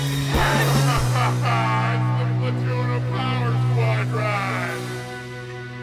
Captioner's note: maniacal laughter